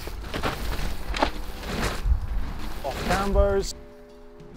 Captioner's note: ground rumbling